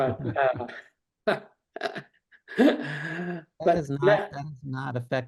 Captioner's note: laughing